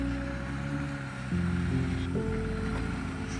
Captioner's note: car motor hums